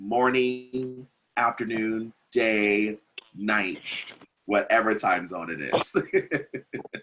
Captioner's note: laughs